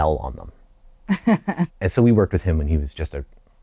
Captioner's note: laughter